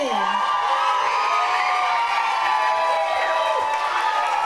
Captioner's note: audience cheers